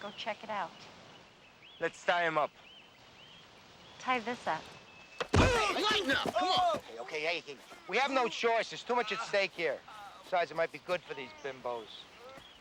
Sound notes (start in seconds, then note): 5.2 body thudding; 5.4 Martinez groaning